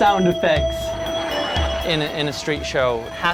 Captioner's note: audience laughing